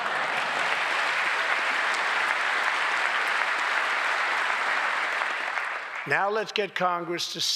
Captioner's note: laughter and applause